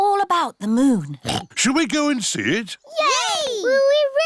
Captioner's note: oinks